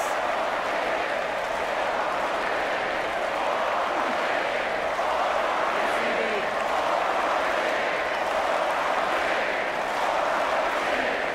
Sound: audience chants

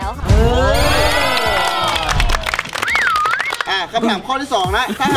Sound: applauding

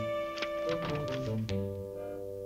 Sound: door closes

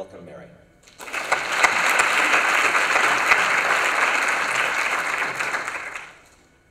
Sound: applause

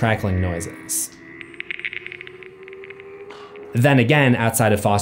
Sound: cracking sounds

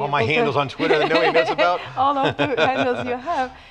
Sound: laughs

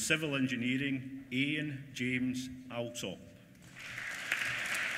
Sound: applause

